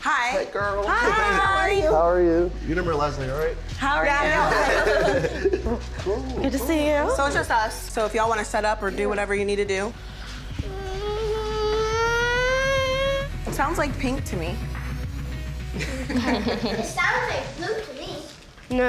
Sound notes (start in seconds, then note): 10.4 whining; 15.7 laughing